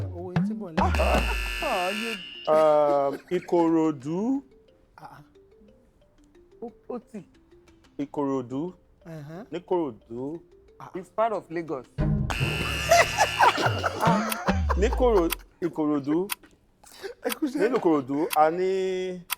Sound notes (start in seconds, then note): 0.8 buzzer preesed; 12.3 buzzer sounds; 12.6 everyone laughs